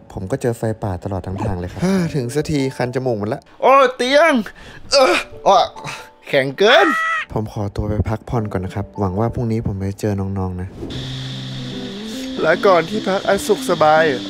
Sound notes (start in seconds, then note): 1.4 sighs; 4.6 sighs; 10.9 crickets humming; 11.0 chilling music playing